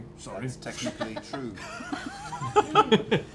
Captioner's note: laughter